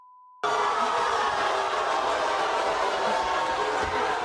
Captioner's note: audience booing